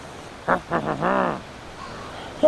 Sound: grunting

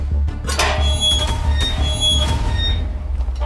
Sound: gate opening

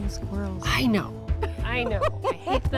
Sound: laughs

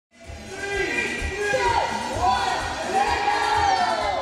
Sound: crowd

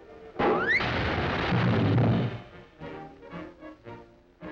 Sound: table crashes; frantic orchestra music

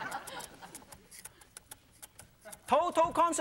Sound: audience laughing; rhythmic tapping

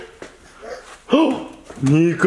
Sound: chuckles; gasps

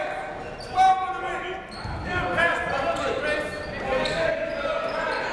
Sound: coaches barking commands

